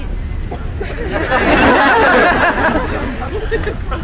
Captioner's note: crowd laughs